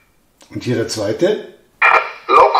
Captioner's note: cabin radio